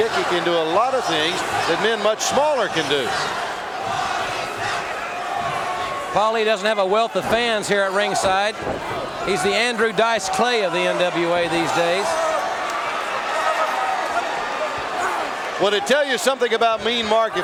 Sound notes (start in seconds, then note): 3.3 audience cheering; 11.9 audience laughing